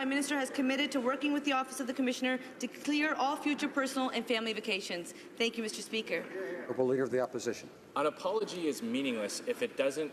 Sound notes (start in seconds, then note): none